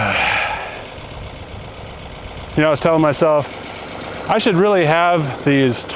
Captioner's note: sighs